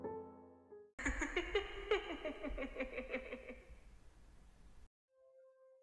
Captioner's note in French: Rire